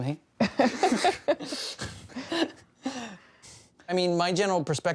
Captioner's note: laughing